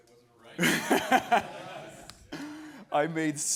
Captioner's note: laughing